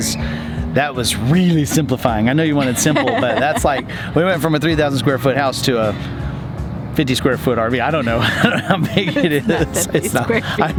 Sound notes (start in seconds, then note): 2.5 laughs; 8.1 both laugh